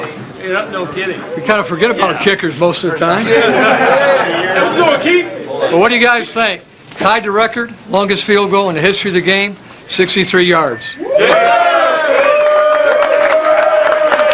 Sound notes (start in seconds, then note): 3.2 laughter; 11.0 cheers and applause